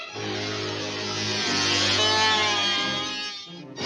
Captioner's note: moth buzzing